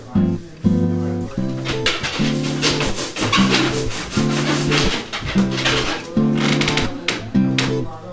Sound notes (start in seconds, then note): 1.2 scratching; 4.6 balloon squeaks